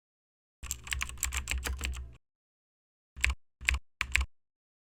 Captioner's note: keyboard clacking